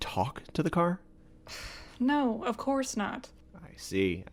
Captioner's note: sigh